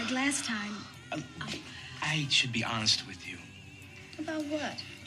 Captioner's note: sighs